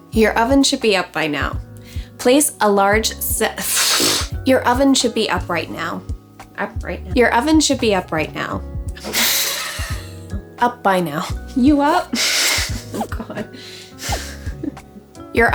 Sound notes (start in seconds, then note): 9.0 laughs; 11.3 laughs